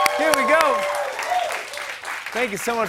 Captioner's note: cheers and applause